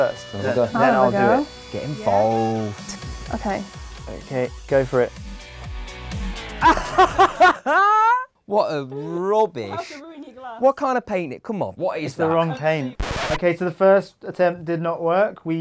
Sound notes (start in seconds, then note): 6.6 laughter